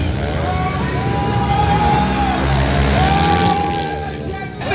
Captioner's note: crowd cheering